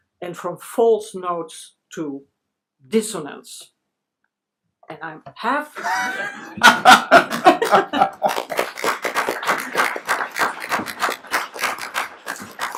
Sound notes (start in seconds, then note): 5.8 laughs loudly; 9.3 applauding